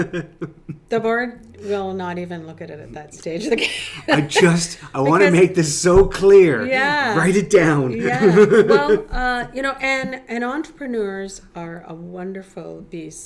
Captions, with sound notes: (laughing) The board, will not even look at it at that stage (laughs). - I just, I wanna make this so clear. - Yeah! - Write it down (laughs)! - Well you know, and entrepreneurs are a wonderful beast,